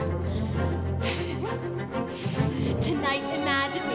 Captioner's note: bouncy upbeat orchestral music; Anna laughs